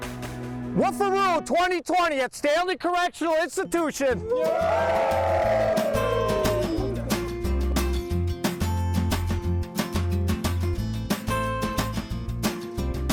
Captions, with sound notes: Woofaroo 2020 at Stanley Correctional Institution. [inmates cheering] [upbeat music]